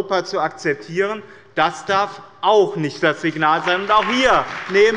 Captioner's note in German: Beifall bei dem BÜNDNIS 90/DIE GRÜNEN und der CDU